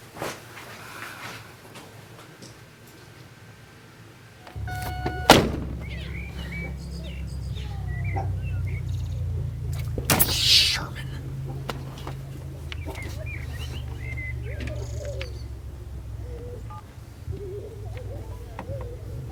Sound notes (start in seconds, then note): 5.1 birds chirping; 13.5 kids playing in the distance